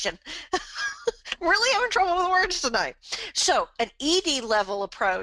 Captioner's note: laughs